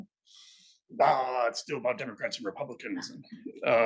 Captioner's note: imitates whining